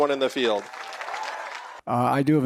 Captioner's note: cheering and applause